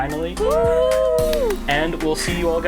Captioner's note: cheering